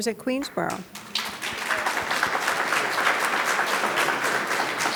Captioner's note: audience claps